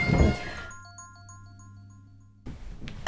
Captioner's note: phone rings